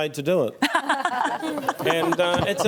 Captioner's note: laughs